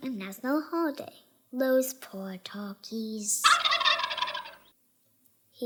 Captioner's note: turkey gobbles